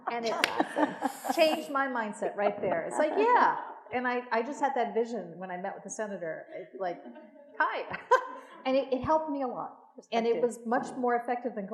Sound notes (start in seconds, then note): 7.0 laughs